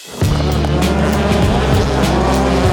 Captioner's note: cars revving; upbeat music